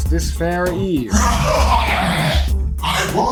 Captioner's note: angry sewage noises